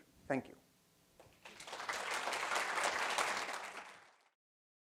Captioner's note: applause